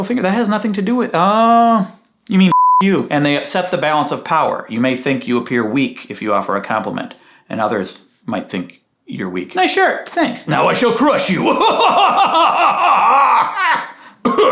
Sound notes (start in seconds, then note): 2.5 beeping; 10.7 laughing maniacally